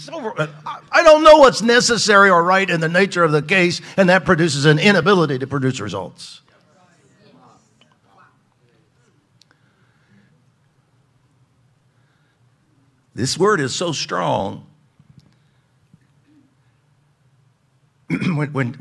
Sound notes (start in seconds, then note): 0.0 shouts; 6.8 audience agreeing together